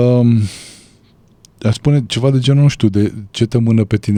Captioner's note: snoring